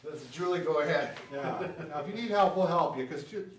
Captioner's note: laughs